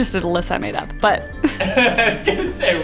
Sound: laughs

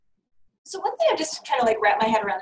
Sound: voiceover

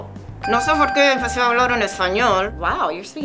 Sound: bell dings

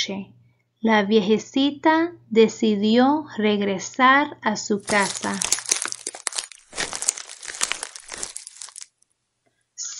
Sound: caminado encima de hojas seca

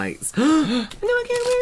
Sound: excited Gasps

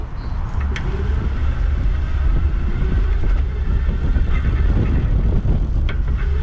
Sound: bike motor rumbling; wind gushing

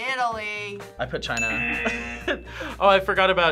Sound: laughs

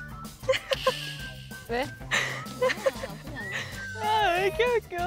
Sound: laughs out loud at a photo

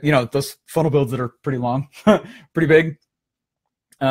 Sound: laughing

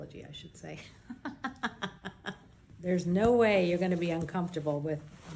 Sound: laughs

